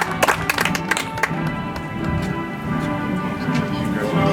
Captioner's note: audience applauds